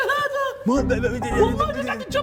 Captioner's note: error sounds